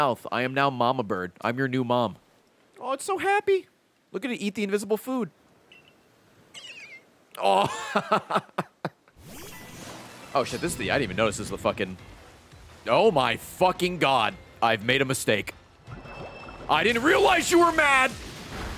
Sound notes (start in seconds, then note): 7.4 laughs